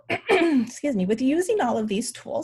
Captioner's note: clears throat